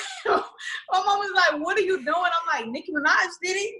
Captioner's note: laughs